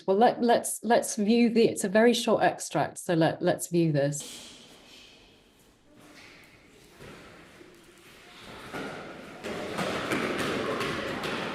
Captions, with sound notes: Well let's view the, it's a very short extract. So let's view this. [sound of boys stomping loudly]